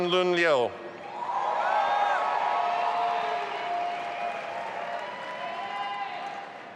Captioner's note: audience applauding and cheering